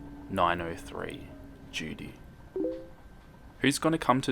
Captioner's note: Facebook message sound